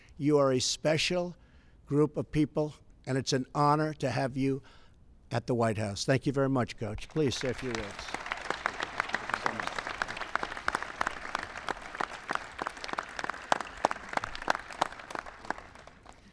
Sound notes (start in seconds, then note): 8.2 applause